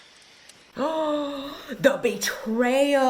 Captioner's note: 𝘰𝘶𝘵𝘳𝘢𝘨𝘦𝘥 𝘨𝘢𝘴𝘱